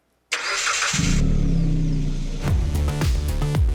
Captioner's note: engine starts